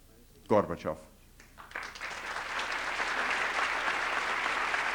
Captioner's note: applause